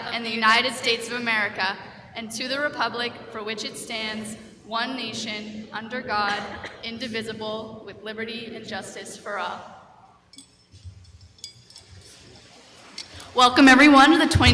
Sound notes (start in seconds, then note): 11.0 bell ringing